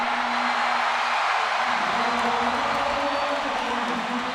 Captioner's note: audience cheering